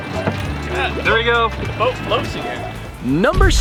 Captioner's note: male Voice